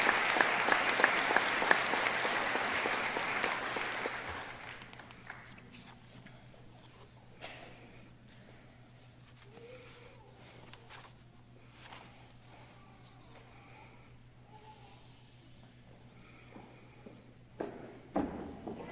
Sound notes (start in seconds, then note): 1.8 applause